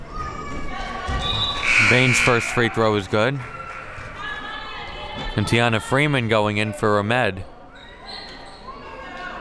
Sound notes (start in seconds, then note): 1.4 whistle blows; 1.6 buzzer blares